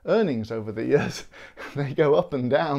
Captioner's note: laughs